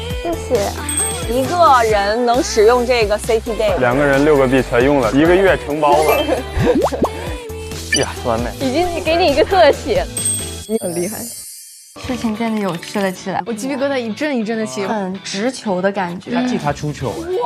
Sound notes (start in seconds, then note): 6.0 laughs